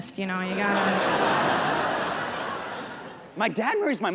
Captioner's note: audience laughs